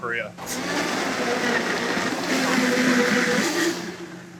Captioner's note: blender whirring